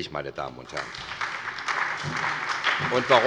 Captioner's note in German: Beifall bei der SPD